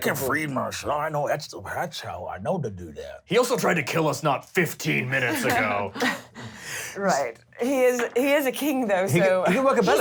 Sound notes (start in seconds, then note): none